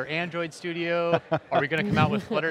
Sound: laughter

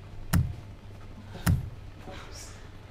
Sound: thuds

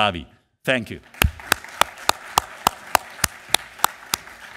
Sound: audience applause

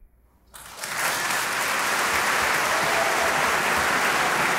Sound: audience applauding

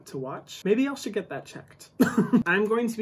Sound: chuckles

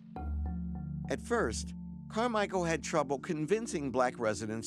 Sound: voiceover

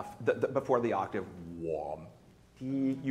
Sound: imitates note

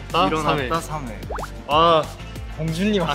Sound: excited

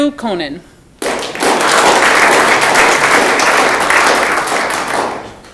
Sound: audience clapping

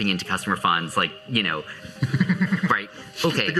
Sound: chuhckles

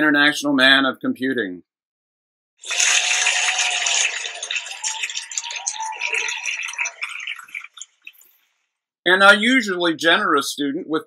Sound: applause sound effect

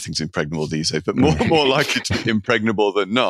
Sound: laughing

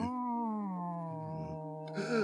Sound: cat growl

